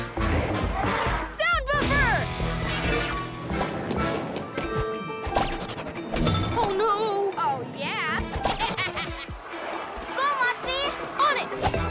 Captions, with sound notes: Sound Buffer! - Oh, no! - Oh, yeah! (Snickers) - Go, Motsie! - On it!